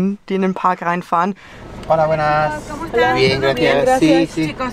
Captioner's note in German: auf Spanisch